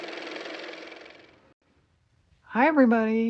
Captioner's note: car motor